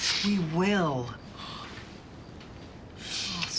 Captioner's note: sniffs